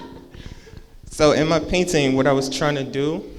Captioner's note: laughing